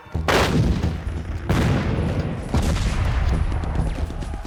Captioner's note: cannons fire